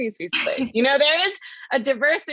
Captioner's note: laugh